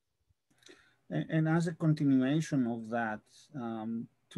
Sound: calm Voice

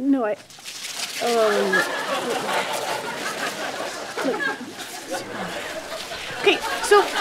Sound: ribbons whirling

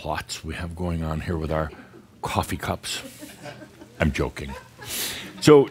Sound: a few giggles

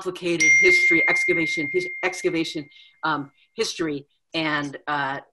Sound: bell dinging

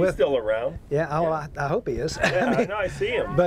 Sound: laughs

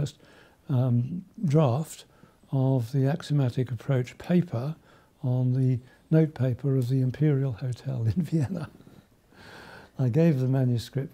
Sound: chuckles

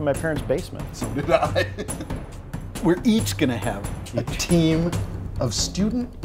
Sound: laughing

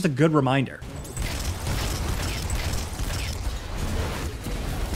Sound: gun firing

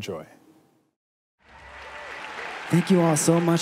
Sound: applause

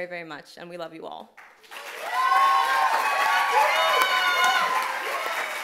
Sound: applause and cheering

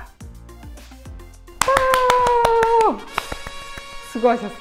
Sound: clap clap clap

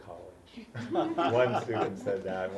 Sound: laugh

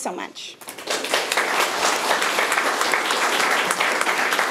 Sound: room applauds

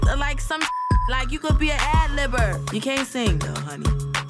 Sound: beep sound

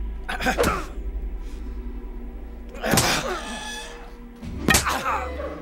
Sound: fleshy thunks; grunting

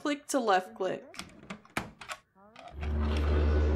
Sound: clicking / Unlocking

